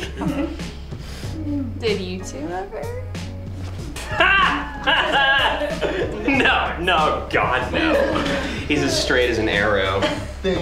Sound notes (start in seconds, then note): 3.9 laughs loudly